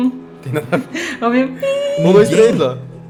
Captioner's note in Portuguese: Piiii